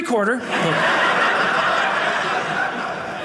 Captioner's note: audience laughing